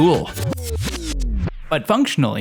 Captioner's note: music glitches out